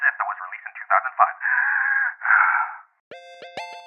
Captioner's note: gasp